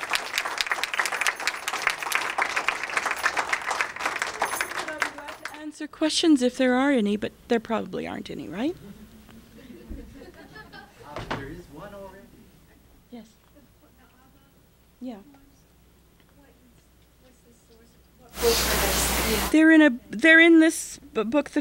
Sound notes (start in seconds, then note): 0.0 applause; 8.8 laughter